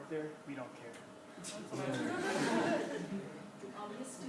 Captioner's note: class laughs